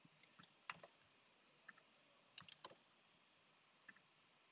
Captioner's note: keyboard rattling